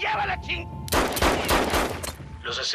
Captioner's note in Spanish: Disparos